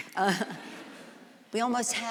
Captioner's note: audience laughs